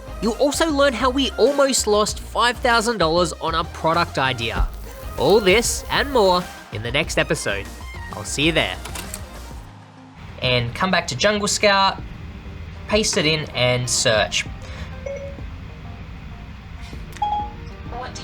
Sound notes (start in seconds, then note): 9.2 shutter clicking; 14.9 phone beeping